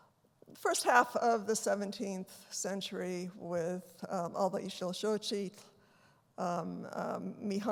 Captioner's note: non-english speech